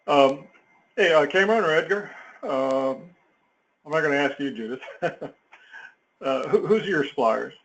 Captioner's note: laugh